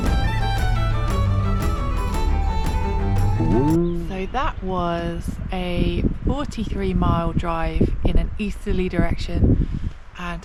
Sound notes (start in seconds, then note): 3.4 boing!